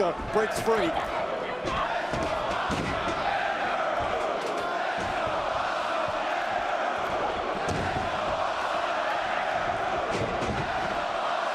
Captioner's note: crowd cheering